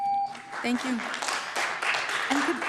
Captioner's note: beep; applause